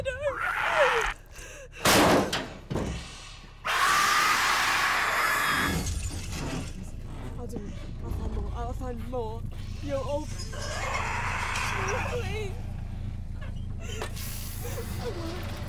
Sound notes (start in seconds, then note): 0.3 roars; 1.8 banging; 3.6 shrieks; 13.3 sobbing